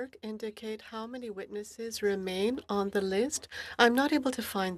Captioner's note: speaking French